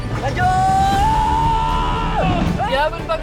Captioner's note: scream